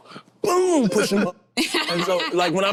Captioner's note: group laughing